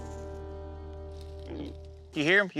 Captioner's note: snorting